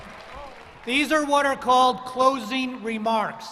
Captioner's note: cheers and applause